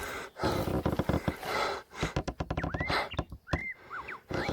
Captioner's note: wildlife sounds